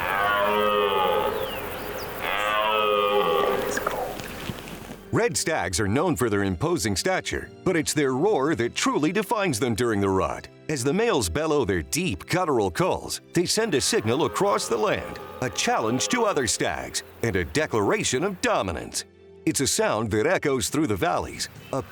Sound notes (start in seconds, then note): 0.0 stag roaring; 13.6 stag roaring